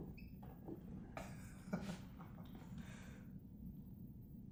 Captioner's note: laughs